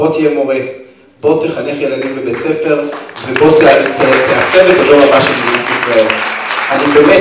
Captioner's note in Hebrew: מחיאות כפיים